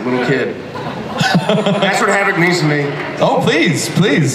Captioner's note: Chris laughs